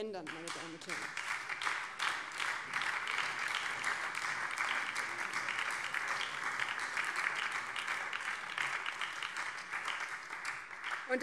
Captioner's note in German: Beifall BÜNDNIS 90/DIE GRÜNEN